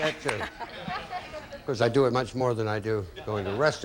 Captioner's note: audience laughing